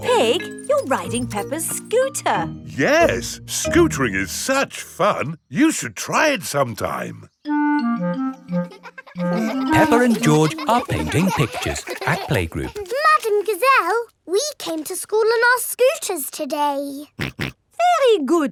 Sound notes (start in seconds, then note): 8.6 children laughing; 17.2 snorts